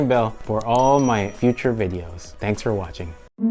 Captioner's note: bell dinging